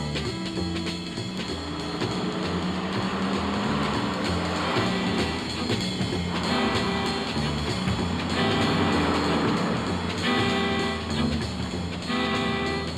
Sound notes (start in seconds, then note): 1.6 suspenseful jazz music; 1.6 traffic sounds; 10.1 suspenseful jazz music